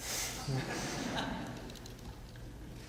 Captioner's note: laughter